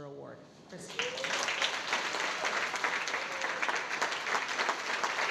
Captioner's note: audience applauding